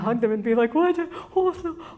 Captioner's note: stammers